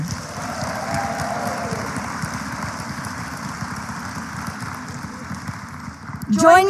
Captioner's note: applause